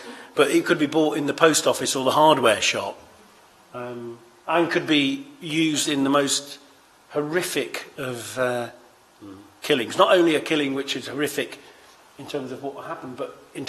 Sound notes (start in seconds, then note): none